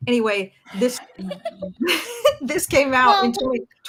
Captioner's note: giggles